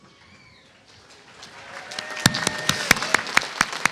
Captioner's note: applause